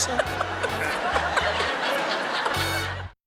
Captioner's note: laughs